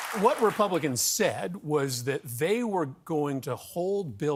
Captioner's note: cheers and applause